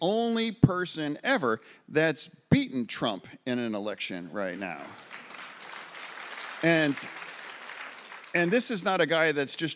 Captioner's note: applause